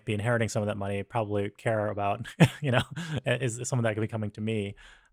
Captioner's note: laughs